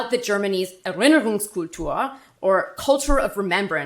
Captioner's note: speaking German